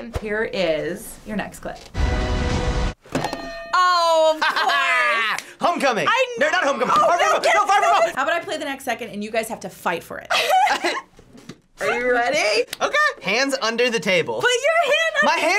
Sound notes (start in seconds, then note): 2.0 adventure music; 3.2 hitting bell; 4.4 laughs; 10.3 both laugh